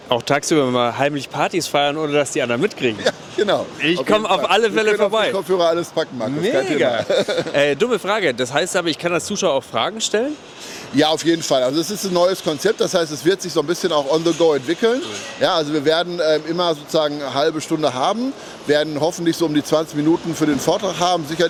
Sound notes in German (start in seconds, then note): 6.5 gelächter